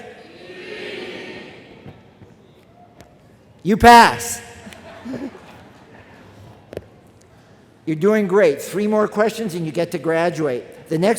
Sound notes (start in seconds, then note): 0.0 crowd; 4.6 laughter from crowd